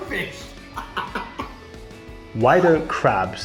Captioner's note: laughs